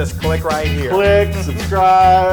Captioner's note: laugh